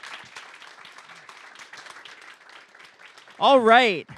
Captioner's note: applause